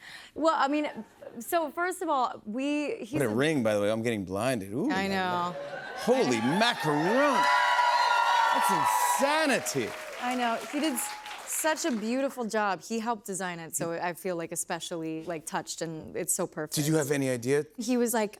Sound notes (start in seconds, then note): 5.4 cheers and applause